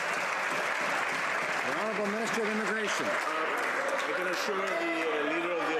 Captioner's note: some Applause